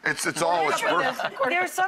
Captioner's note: laughs